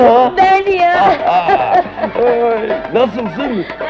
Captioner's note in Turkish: Kahkahalar